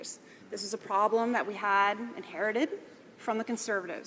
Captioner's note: speaking French